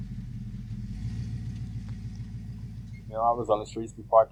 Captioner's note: truck engine purring